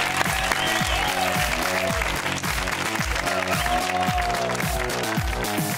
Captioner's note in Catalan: aplaudiments